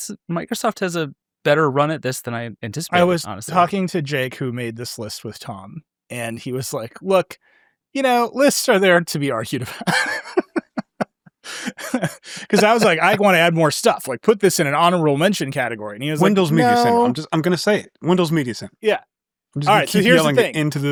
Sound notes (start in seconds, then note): 9.5 laughs